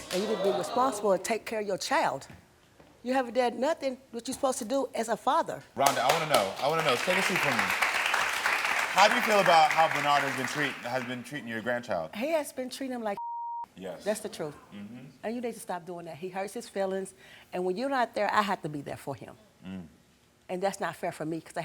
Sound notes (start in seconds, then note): 8.0 audience applauding; 13.2 beep